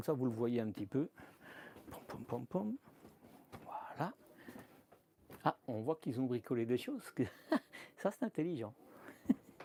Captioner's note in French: rires